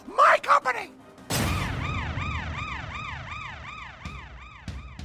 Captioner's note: siren rings